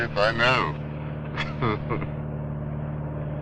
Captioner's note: ustinov chuckles